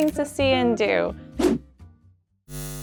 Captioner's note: graphics whooshing; electric buzzing